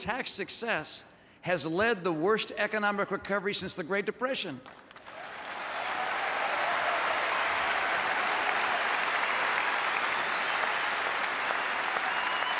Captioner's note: applause